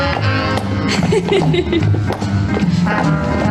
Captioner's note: laughs